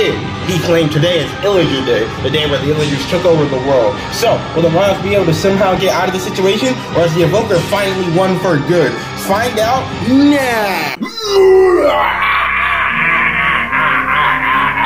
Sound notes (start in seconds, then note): 10.5 maniacal laughter